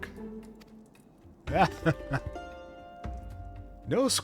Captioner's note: laughter